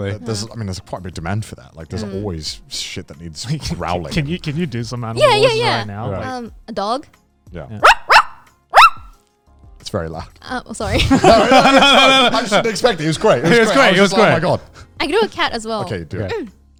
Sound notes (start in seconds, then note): 7.8 barking